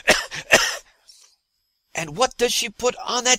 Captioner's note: cough-cough-cough